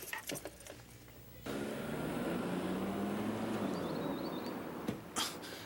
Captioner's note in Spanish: Ronco do motor do carro